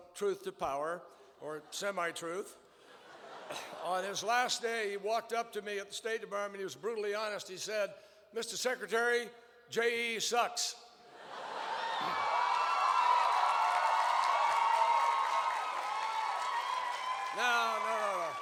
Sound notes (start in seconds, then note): 2.8 laughter; 14.9 laughter and cheers